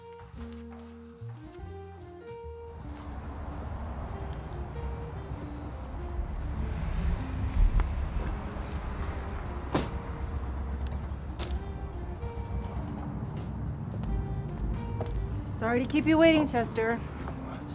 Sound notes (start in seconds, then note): 0.3 gentle music; 7.0 engine whirring; 9.9 gentle music continues